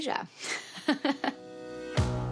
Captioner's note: laughing